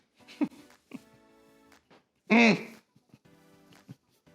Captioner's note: laughing